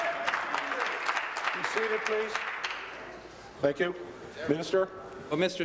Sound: applause

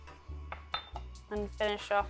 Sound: bowl clinks

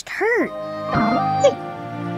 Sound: whimpering

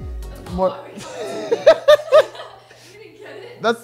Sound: laughs

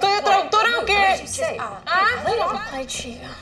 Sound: Lupe speaks in Spanish; Esti and Lupe speak in Spanish

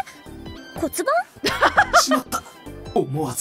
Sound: chuckles

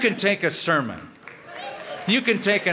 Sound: applause

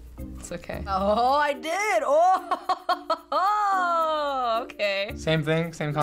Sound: laughs

